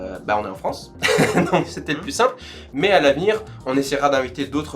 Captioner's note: laughs